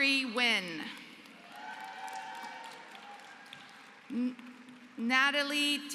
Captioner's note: applause